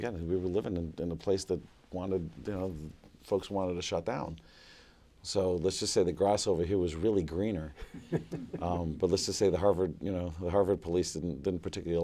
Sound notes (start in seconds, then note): 7.8 chuckling